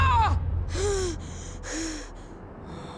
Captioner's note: both screaming; Aang gasping